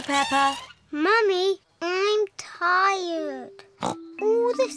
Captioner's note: snorts